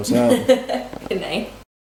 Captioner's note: laughing